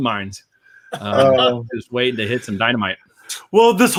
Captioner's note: laughs